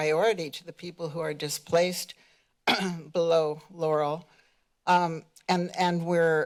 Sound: clears throat

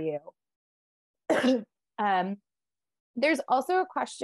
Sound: coughs

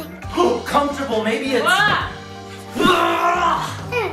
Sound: grunts

